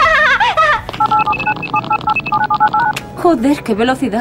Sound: keystroke sound at full throttle

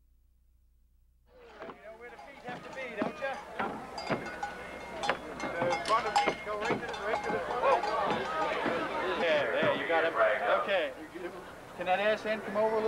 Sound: crowd and bell noises

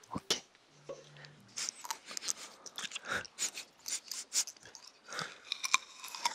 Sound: sniffs

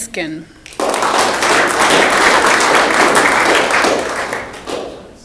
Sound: audience clapping

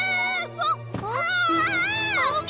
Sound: screams

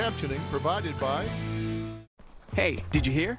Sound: Dr. Phil narrating

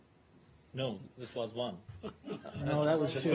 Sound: laughter

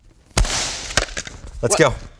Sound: balloon popping

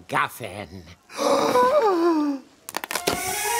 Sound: gasping

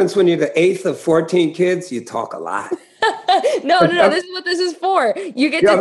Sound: laughter

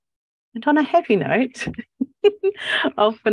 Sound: laughs

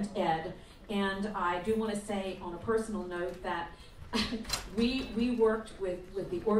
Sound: laughs

